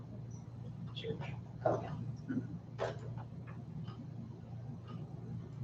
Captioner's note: board members mumbling